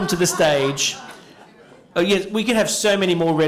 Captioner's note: laughter